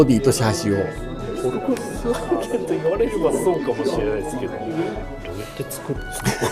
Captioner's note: laughs